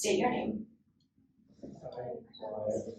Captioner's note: inductees repeat